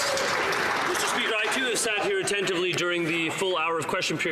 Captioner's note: some Applause